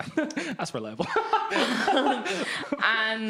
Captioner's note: laughing